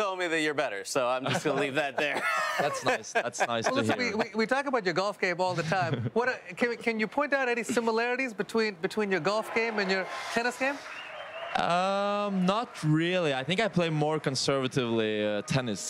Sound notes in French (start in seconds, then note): 3.5 laughter